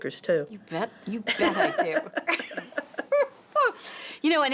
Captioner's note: laughter